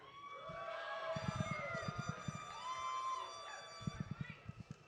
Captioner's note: audience cheering